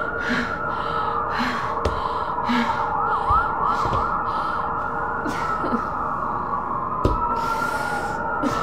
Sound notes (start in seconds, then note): 0.1 enjolras gasping